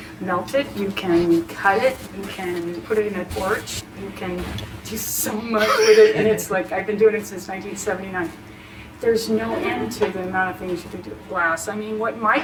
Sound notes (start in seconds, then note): 5.6 laughs